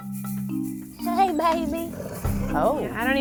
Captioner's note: dogs growling